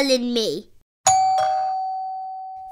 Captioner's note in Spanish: Timbre de la puerta